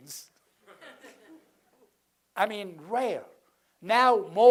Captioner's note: laugh